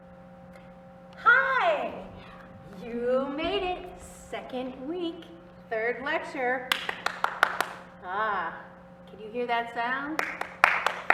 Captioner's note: applause